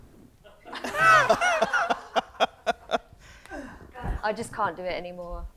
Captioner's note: audience laughs